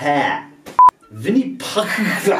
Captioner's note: beep